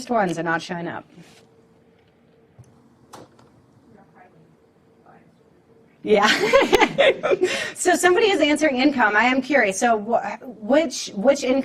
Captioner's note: laughter